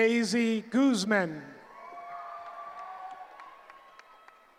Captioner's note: cheering